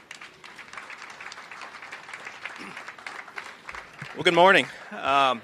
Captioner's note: applause